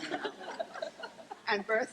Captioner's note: laughing